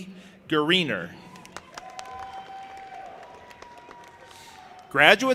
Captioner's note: audience applauding and cheering